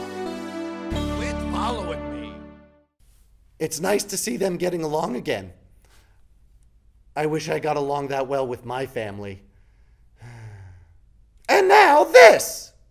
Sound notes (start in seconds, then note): 10.2 sighs